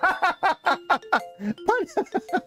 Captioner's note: laughs